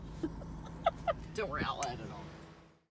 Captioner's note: laughter